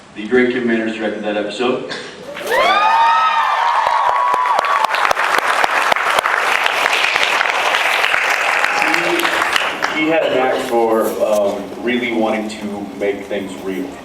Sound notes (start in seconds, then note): 2.2 cheers, applauds; 3.3 cheers